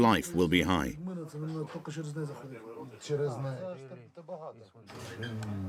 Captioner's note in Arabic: الصوت المنطوق الأوكراني